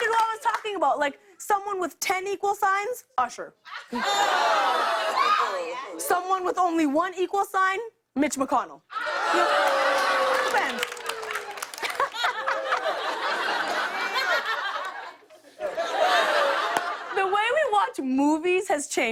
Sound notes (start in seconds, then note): 11.5 laughter